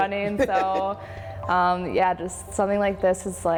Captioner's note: laughs